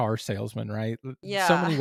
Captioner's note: laugh